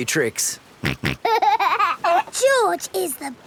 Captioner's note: snorts and laughs